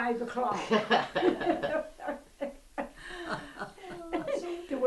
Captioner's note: laughter